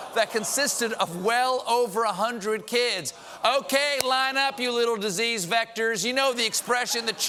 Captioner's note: laughter